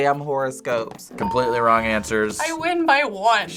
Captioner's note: bell rings